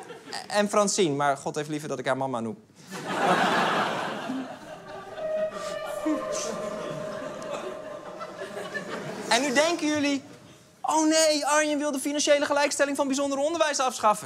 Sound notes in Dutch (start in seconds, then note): 2.9 Gelach